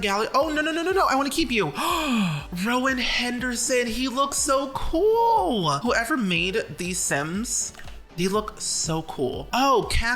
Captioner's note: gasp